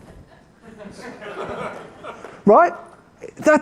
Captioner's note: laughing